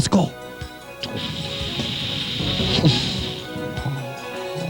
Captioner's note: shhhhhpssshhhuhshhhhh